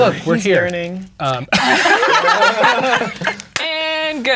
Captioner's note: all laughing; claps